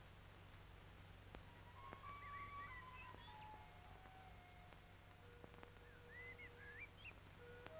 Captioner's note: birds chirping; idyllic music